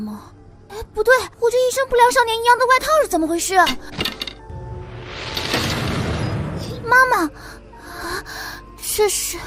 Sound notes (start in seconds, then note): 4.4 bam!